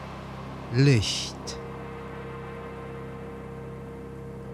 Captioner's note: german